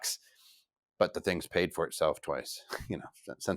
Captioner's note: chuckles